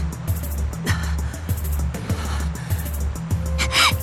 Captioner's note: labored breathing